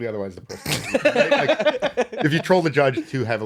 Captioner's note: laughing